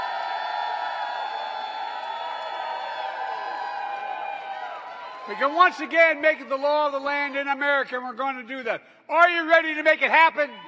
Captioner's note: applause